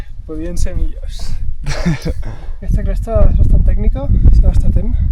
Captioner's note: laughs